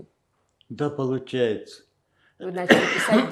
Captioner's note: coughing